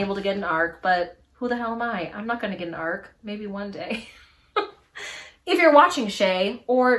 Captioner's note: laughs